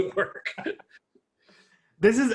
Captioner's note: people laughing